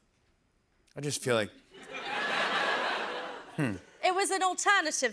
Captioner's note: laughter